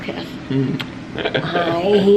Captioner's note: chuckles